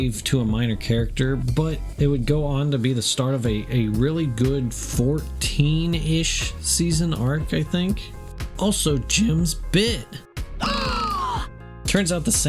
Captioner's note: gasp